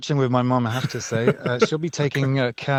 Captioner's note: laughs